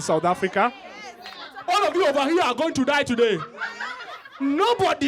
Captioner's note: laughter